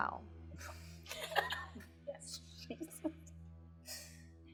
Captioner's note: laughing